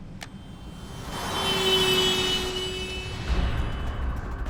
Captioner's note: car horn blaring